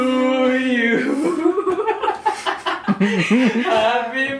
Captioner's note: laughs